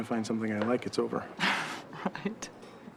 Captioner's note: chuckles